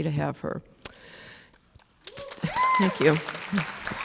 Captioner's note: applause